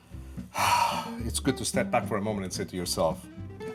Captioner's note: sighs